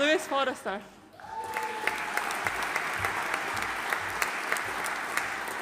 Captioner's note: audience applauding